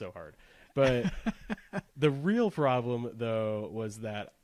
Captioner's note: laughs